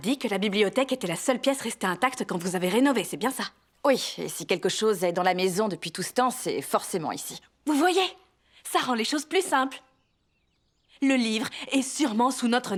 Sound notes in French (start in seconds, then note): 8.7 gazouillis d'oiseaux